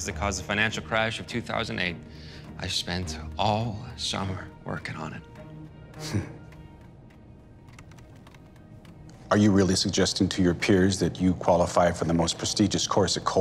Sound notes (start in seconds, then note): 6.0 laughs